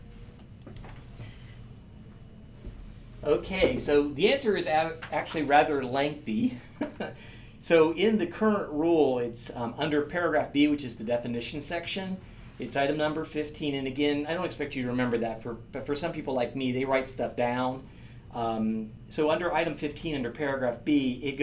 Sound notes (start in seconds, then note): 6.7 laughing